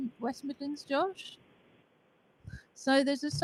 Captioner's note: no sound or visual